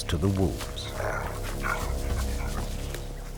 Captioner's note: wolves snarling